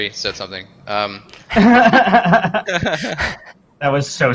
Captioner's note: laughter